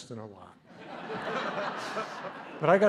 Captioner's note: laughter